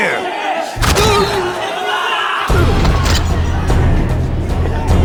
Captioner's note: distant yelling